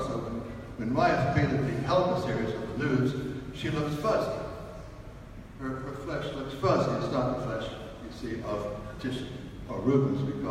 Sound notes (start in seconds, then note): none